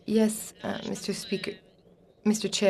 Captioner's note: speaking French